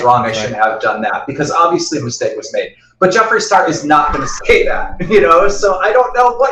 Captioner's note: laughs